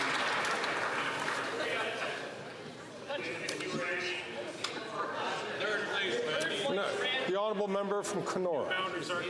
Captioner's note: some Applause